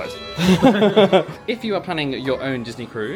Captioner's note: both laugh